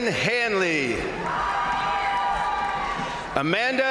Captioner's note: crowd cheering; crowd applauding